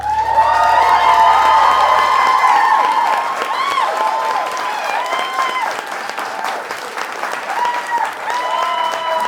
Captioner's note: applause